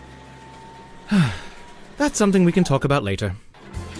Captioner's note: narrator sighs